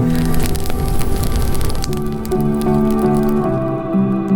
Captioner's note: fire crackling; soft music